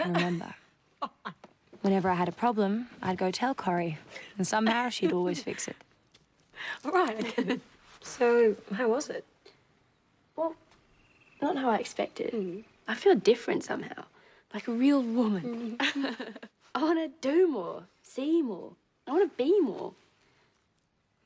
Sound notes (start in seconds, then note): 1.0 laughs; 15.6 laughs